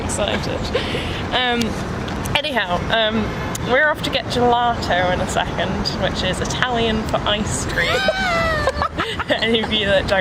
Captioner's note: laugh